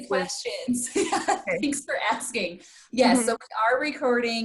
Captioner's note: laughs